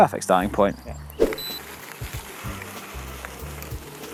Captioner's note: beep